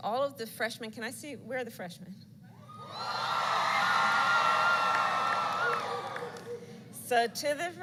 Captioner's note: applause